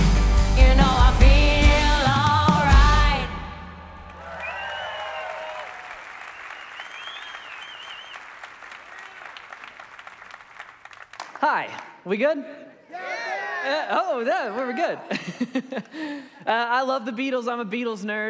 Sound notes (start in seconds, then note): 9.6 audience applauding; 14.5 laughs